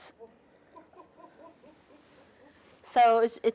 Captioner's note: laughing